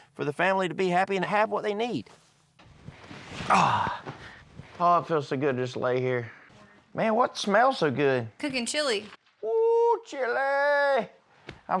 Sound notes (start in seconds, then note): 3.4 sighs